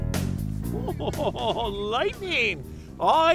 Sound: laughing

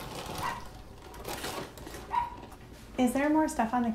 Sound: dog barks

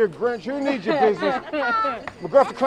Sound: laughter

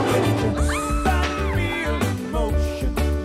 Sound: women cheering

